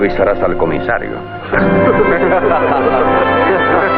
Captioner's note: all laughing